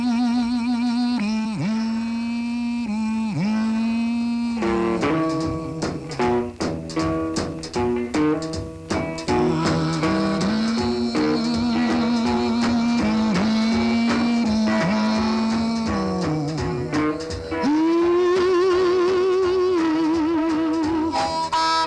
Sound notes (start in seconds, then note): 9.8 humming resumes